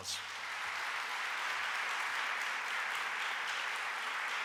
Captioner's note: audience applauding